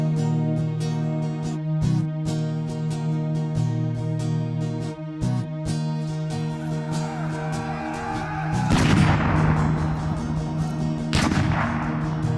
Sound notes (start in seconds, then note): 2.3 mellow music continues; 8.6 cannons fire